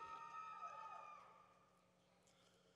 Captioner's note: cheering